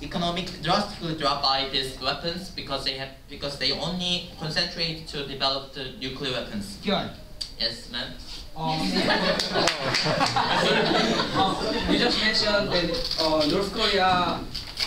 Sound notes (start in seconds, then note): 8.7 laughter